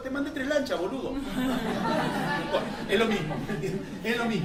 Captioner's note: laughter